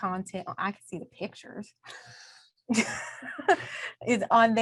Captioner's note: chuckles